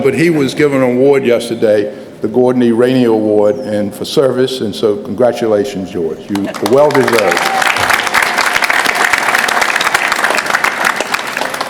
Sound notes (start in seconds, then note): 8.0 applause